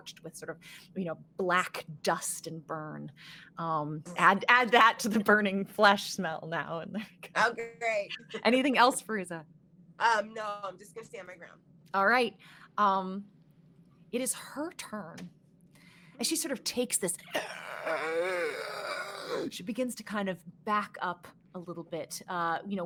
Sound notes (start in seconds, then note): 17.3 groans